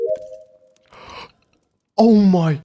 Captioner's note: gasp